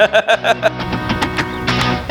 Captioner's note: laughing